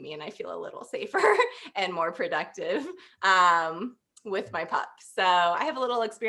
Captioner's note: laughter